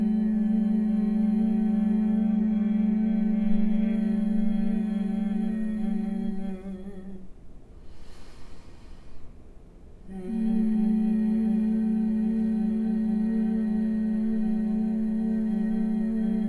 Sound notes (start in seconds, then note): 7.5 humming; 7.9 inhaling